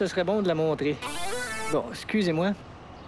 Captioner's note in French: sonnerie de cellulaire